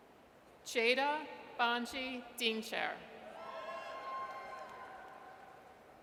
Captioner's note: audience cheers